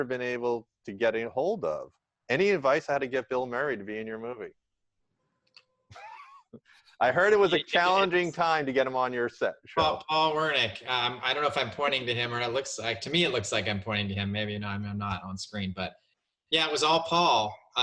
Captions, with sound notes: been able to get a hold of. Any advice on how to get Bill Murray to be in your movie? (laughs) I heard it was a challenging time to get him on your set. - Paul Wernick, I don't know if I'm pointing to him. To me it looks like I'm pointing to him, maybe I'm not on screen. Yeah, it was all Paul.